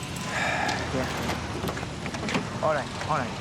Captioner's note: sighs